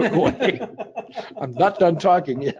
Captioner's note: both laughing